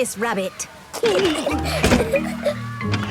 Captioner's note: giggling